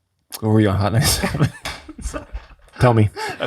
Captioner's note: laughs